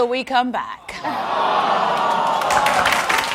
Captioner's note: audience expresses disappointment; audience applauds